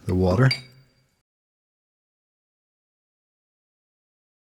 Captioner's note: silence